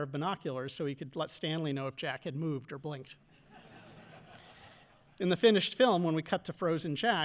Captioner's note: audience laughing